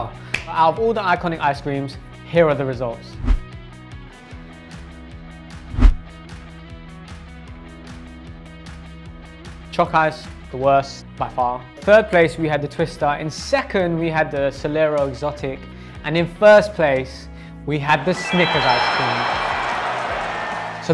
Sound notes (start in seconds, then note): 3.2 upbeat music; 5.6 whooshing; 17.9 recording of crowd cheering